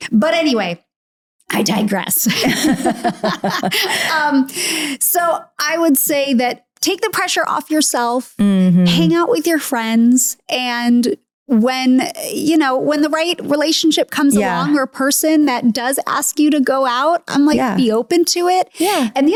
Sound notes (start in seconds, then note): 2.3 both laughing